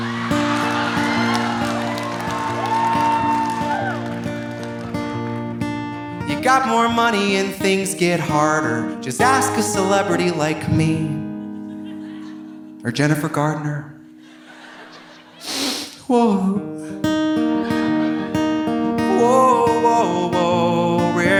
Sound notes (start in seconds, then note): 0.0 audience cheering; 0.0 audience applauding; 11.1 audience laughing; 14.1 audience laughing